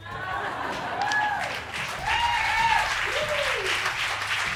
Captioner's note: crowd laughs and cheers